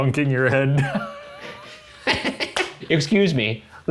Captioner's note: laughing